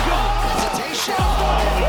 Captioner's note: shouting; cheering; shouting